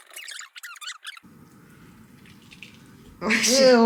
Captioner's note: squish sound